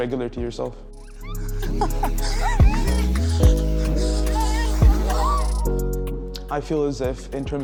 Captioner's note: gentle upbeat music; people laughing